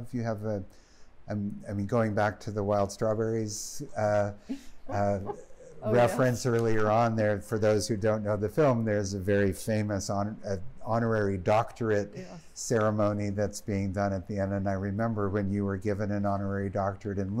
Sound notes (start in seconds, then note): 4.9 laughing